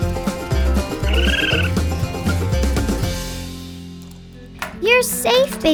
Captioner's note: upbeat music; raccoon screeching